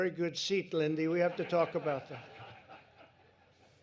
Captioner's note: laughter